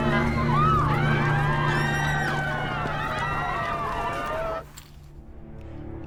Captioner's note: people screaming